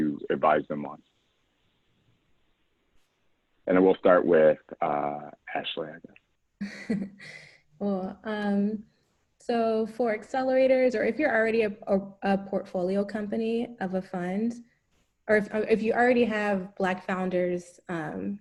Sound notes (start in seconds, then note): 5.5 laugh